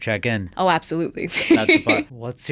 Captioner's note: laughs